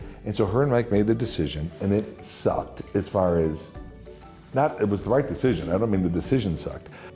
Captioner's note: none